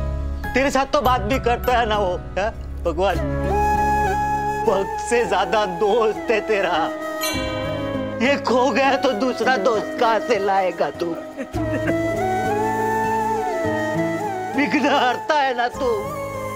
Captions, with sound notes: Lord, he used to talk to You! [ethereal music] He was more of a friend than a devotee to You! [bell clanging] Where will You get another friend like him? [sobbing] You are called an obstacle-remover!